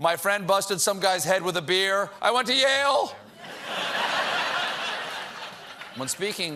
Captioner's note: laughter